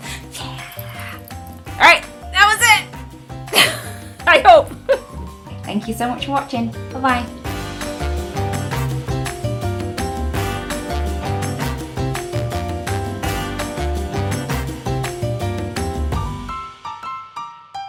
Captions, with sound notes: Yeah, alright, that was it. (laughing) I hope. - Thank you so much for watching, bye-bye. (upbeat music)